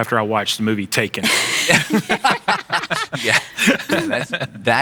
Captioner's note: laughing